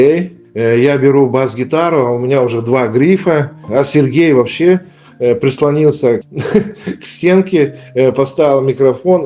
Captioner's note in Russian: смех